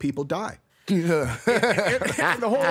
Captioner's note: laughs